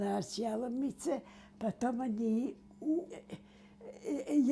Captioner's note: mumbling